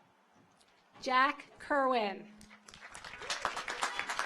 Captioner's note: audience applauds